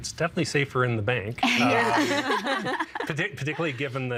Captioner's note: everyone laughing